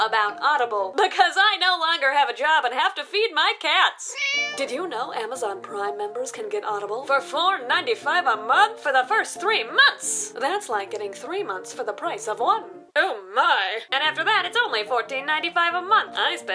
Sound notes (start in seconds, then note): 4.1 cat meowing